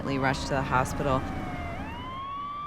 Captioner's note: siren